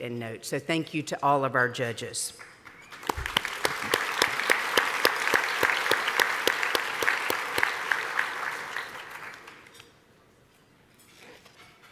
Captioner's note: applause